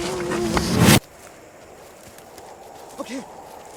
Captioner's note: Bo grunting; cold wind